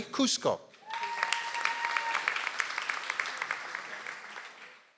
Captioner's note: audience applauds